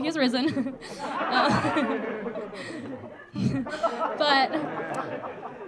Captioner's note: audience laughing